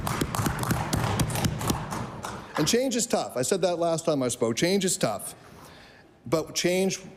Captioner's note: applause